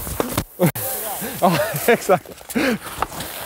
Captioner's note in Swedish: skratt